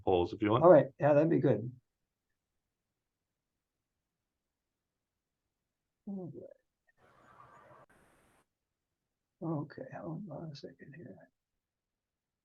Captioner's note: silence